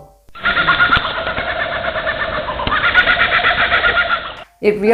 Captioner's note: laughing kookaburra's sound